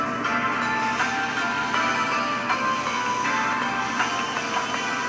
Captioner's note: bandsaw buzzing